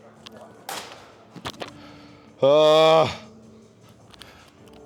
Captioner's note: grunts